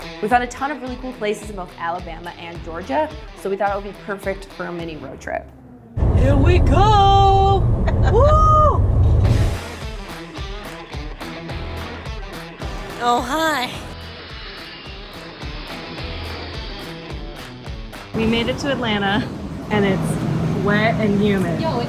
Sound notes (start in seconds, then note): 0.0 lively rock music; 7.8 laughs; 9.3 lively rock music; 14.5 airplane engine roars